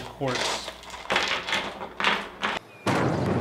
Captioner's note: rocks clattering; rock exploding